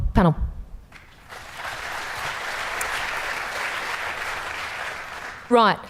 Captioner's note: applause